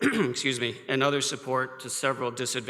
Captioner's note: coughs